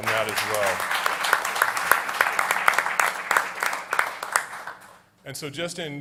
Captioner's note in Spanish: Aplausos